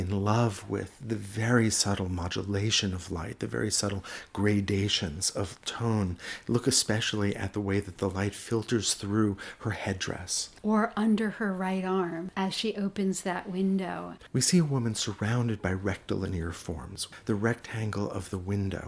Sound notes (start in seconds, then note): 10.3 voiceover; 14.4 voiceover